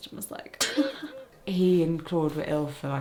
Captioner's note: laughing